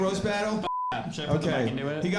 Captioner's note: beeps